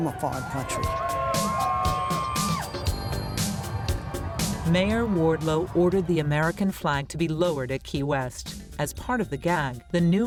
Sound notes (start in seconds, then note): 4.2 melodious music; 4.2 people cheering